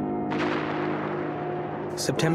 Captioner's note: booming